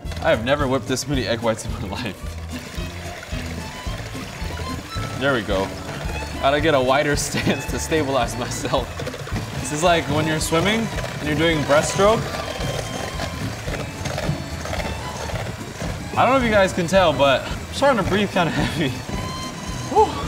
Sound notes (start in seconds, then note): 2.6 liquid splashing; 2.6 mixers whirring; 12.9 mixers whirring